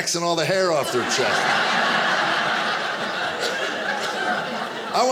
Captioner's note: audience laughing